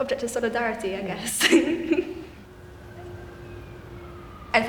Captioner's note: laughing